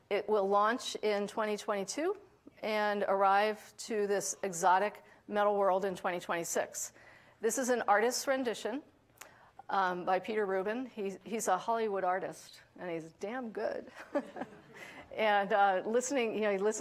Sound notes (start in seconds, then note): 14.0 laughs; 14.1 audience laughing